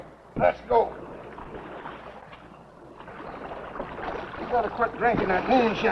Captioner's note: water splashing